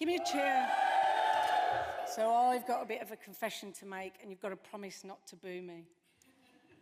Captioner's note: audience cheers